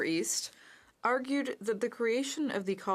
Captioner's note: speaking French